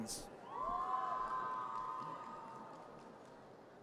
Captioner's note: audience cheers